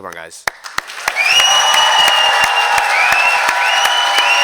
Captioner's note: cheering